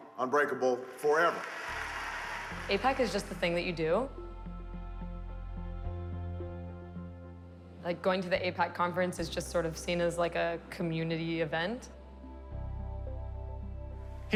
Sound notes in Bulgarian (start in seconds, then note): 1.2 Аплодисменти